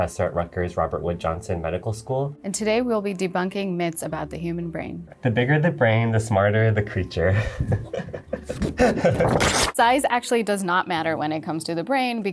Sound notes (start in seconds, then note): 7.3 laughing